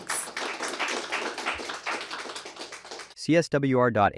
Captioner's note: applause